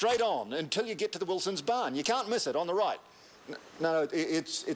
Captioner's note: none